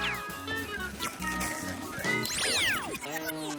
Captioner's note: energy hums